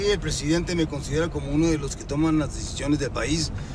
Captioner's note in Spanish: none